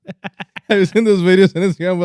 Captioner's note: laughing